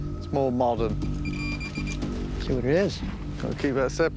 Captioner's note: beeping